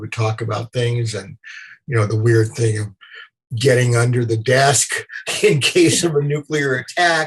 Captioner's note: laughter